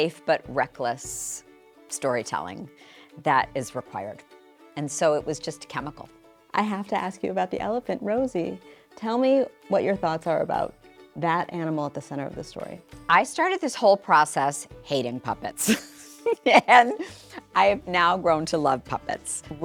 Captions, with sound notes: but reckless storytelling that is required. And so it was just chemical. - I have to ask you about the elephant, Rosie. Tell me what your thoughts are about that animal at the center of the story. - I started this whole process hating puppets. (laughs) And I have now grown to love puppets.